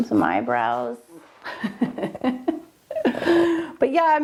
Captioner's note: laughing